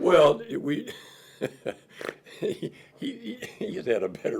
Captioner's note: laughs